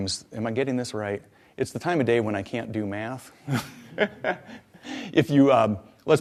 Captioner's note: laughs